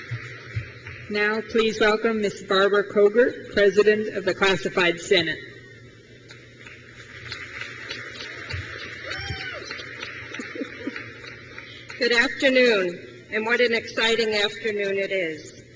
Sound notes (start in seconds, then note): 6.9 crowd cheers; 10.2 laughs